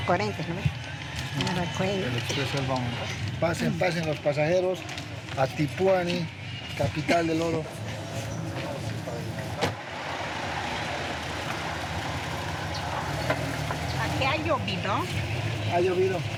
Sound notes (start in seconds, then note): 0.3 speaking in foreign language; 2.9 driver speaking in foreign language; 14.5 speaking in foreign language